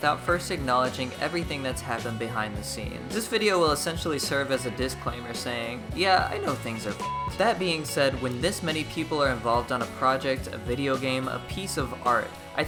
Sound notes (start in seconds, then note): 6.9 beep